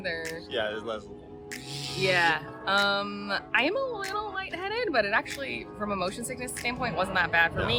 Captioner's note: buzzy noises